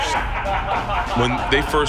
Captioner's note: men laugh